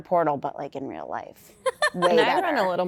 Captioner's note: laughter